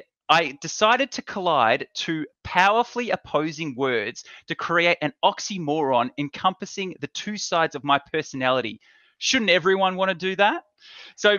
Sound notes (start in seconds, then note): none